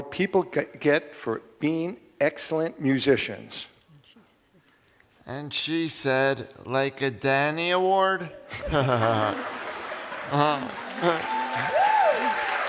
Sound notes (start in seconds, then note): 8.3 laughs; 9.4 cheers and applause